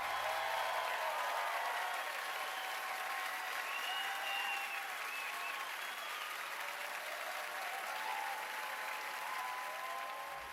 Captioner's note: cheers and applause